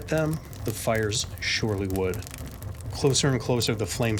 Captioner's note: fire crackling